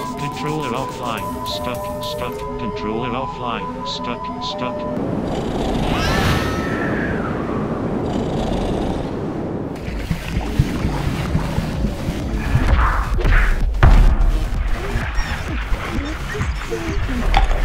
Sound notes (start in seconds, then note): 5.3 snoring; 5.9 screaming; 8.0 snoring